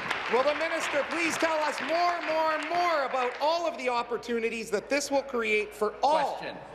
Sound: applause

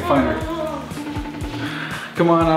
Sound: Facetime rings

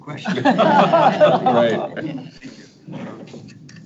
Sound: people laugh

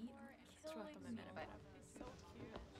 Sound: background chatter

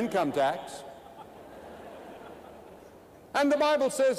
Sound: laughter

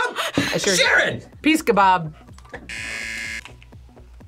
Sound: buzzer

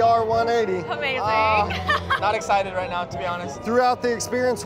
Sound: laughs

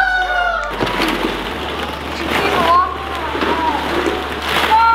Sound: balls clattering

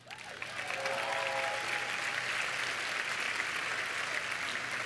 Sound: applause

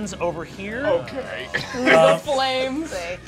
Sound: chuckles

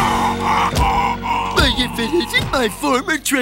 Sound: grunting

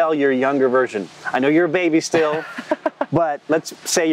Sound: laughs

